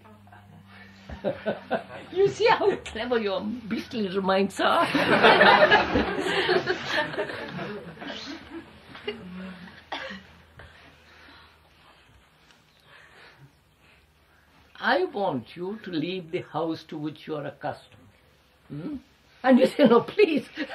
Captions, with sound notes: (Laughs) You see how clever your beastly little minds are! (Laughter) I want you to leave the house to which you are accustomed, and you say, ‘No,